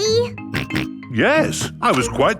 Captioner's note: snorts